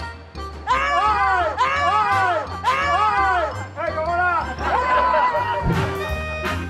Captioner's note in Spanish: Grita